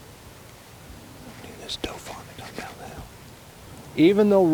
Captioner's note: whispering